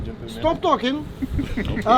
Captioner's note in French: rires